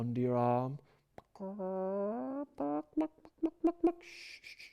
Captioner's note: cluckling